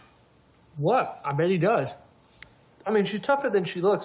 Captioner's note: none